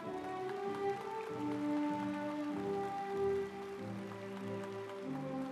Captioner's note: audience applauds; stately music